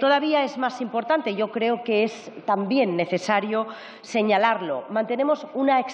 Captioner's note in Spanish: none